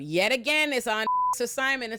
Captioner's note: beep